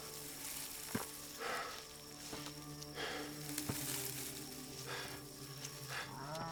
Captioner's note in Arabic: جاستن يلهث